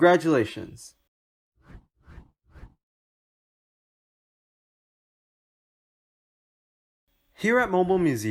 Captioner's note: transition swoosh